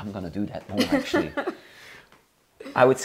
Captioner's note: laughing